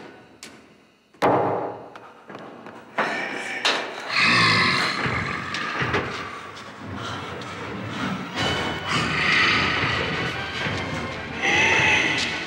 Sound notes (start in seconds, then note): 4.1 dramatic music; 4.2 Donald growling